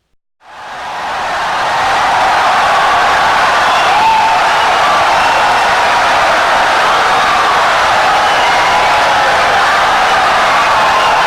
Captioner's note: wild applause and cheering for 17 seconds